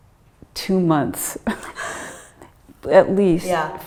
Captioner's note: chuckling